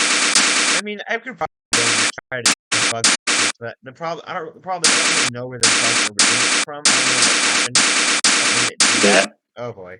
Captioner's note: stuttering